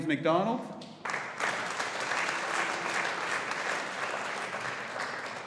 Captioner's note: audience applauding